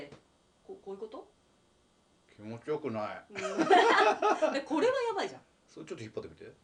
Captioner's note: laughs